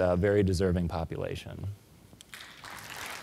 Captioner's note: applause